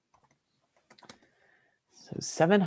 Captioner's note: keyboard typing